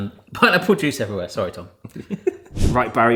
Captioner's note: chuckles